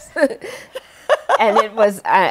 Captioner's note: laughter